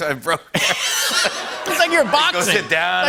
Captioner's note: laughter